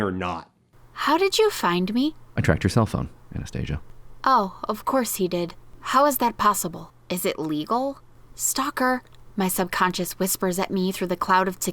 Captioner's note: reading aloud from the novel